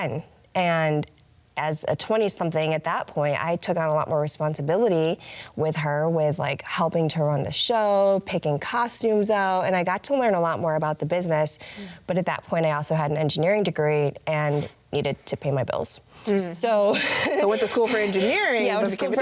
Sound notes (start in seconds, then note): 16.9 laughs